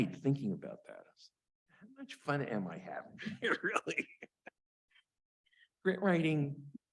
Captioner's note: chuckles